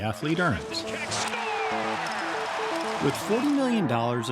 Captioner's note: crowd cheering